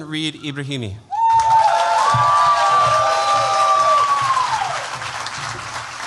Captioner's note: cheers, applause